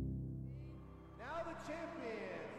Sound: crowd cheering

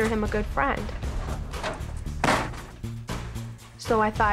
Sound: door slamming

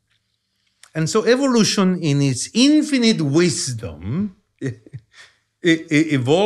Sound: chuckles

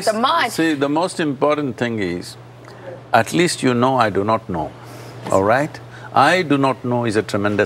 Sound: none

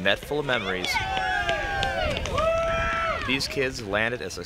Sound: loud cheering

